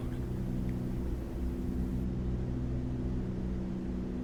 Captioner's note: aircraft engines sounding